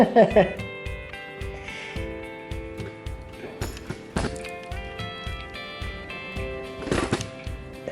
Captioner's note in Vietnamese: cười